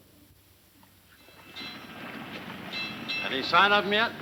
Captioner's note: bells clanging